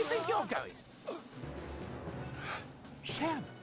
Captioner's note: sighs